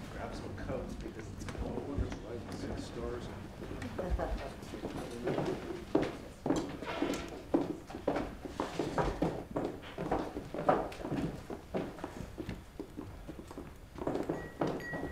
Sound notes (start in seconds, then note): 3.8 people chattering at the background; 5.5 footsteps treading; 14.3 glass tinkling; 14.7 footsteps treading